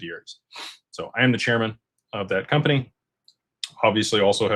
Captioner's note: snorts